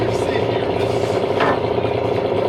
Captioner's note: engine revving